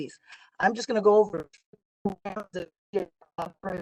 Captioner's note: audio distorting